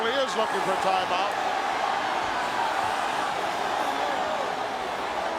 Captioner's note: audience cheering